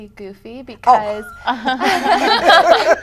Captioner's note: laughter